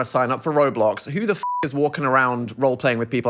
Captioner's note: beep